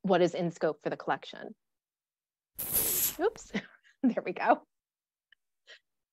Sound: bottle opening

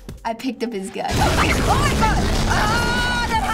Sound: startled scream

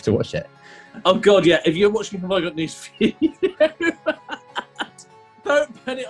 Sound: laughing

